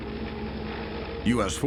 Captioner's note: helicopter whirring